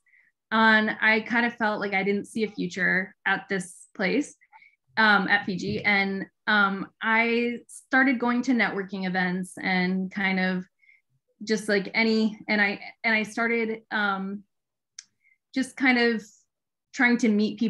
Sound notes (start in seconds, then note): none